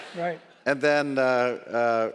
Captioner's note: audience laughs